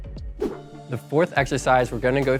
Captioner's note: wooshing